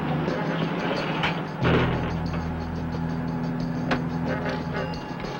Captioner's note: door thuds close